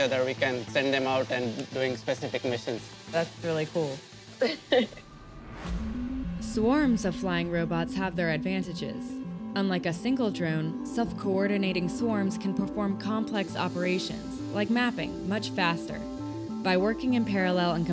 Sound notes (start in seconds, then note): 4.4 laughing